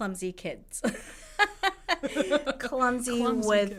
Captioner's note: laughs